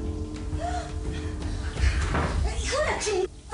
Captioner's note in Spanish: Portazo